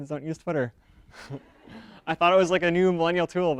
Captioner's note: audience laughter